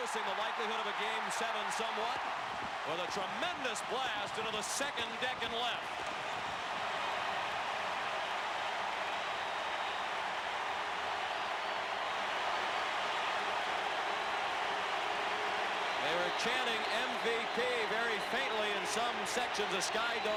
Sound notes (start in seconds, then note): 4.2 applause; 5.4 cheering and Applause